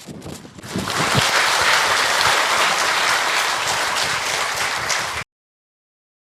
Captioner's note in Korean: 청중박수